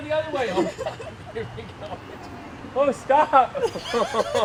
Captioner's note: laughter